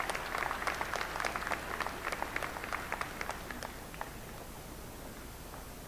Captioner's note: applause